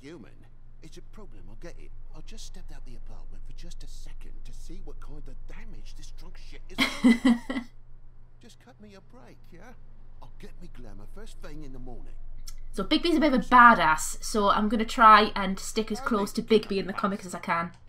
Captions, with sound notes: [Laughs] So Bigby's a bit of a bad-a**, so I'm gonna try and stick as close to Bigby in the comics as I can...